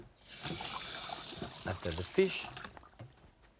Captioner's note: water running